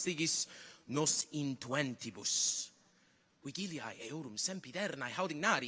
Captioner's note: continues to speak in Latin